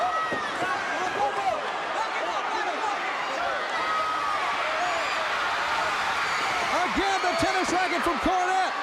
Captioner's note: crowd cheering